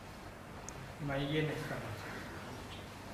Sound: in Hindi

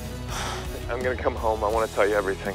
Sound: sighs

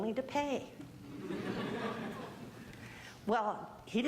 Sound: audience laughing

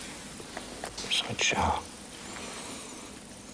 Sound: none

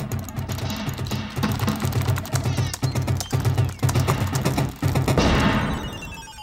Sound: keyboard clicking; mouse clicking; video game music

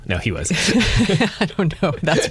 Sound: laughter

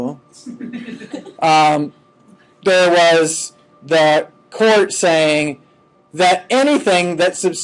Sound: students laughing

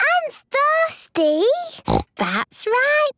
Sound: snorts

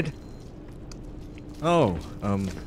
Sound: bullsquid eats

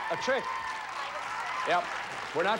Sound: audience cheering

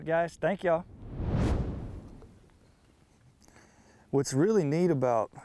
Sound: air whooshing

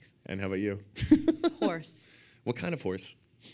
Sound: laughing

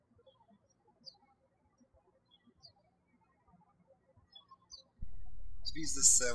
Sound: birds chirping

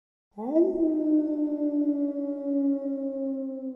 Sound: wolf howling

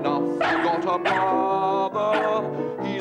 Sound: yaps

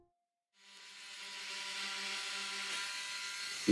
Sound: whirring, buzzing

